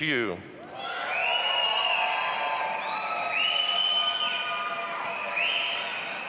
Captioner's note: audience applauding and cheering